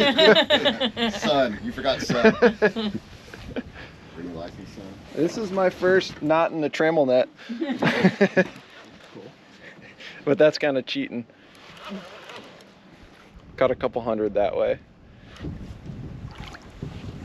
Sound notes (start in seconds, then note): 0.0 laughing; 1.8 chuckling; 7.6 chuckling; 11.4 reel cranking